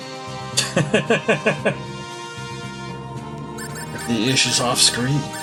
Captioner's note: laughs